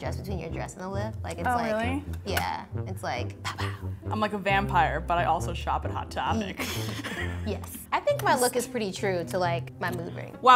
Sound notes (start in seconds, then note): 6.4 chuckles